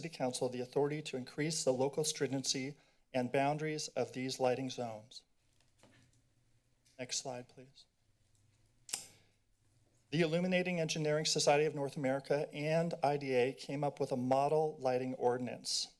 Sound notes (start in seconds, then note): none